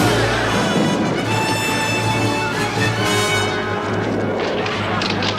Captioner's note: Aplausos